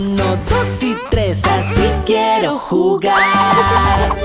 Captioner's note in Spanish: Risas; Música alegre